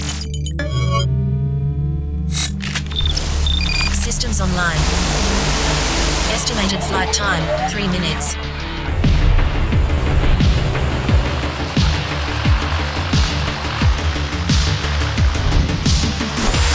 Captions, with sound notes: (robot beeping sound) (robot whirling sound) (robot beeping sound) - [Robot lady Voice] Systems online. (robot whirling sound) Estimated flight time, three minutes. (upbeat music)